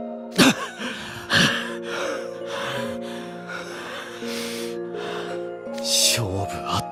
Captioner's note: pant, pant….!